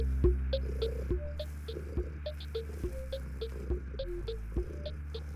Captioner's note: Cauliflower purring